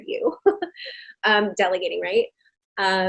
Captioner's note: chuckling